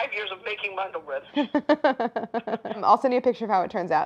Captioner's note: laughs